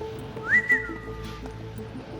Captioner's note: whistles